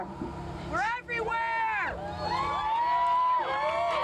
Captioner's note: cheering; shout